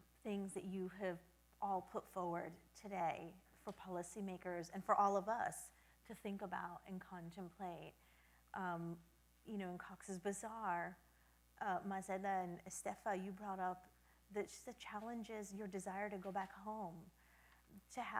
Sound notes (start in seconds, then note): none